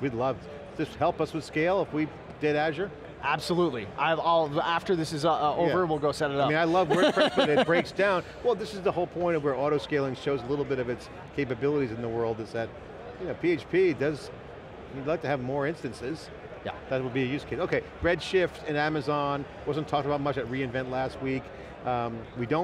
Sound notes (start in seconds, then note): 6.6 laughing